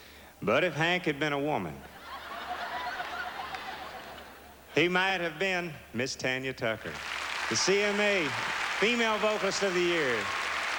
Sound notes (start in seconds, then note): 1.9 audience laughing